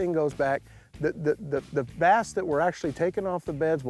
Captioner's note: stammers